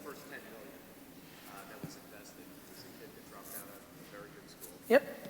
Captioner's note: crowd member speaking quietly